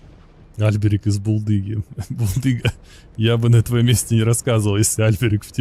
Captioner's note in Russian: смех